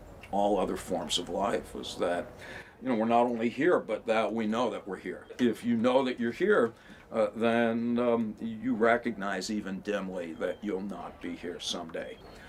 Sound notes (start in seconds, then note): none